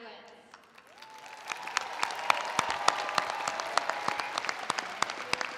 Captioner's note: attendees applauding